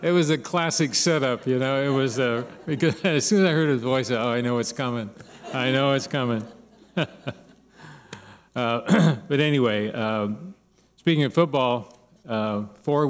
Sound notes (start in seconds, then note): 0.0 laughter; 5.1 laughter; 8.8 clears throat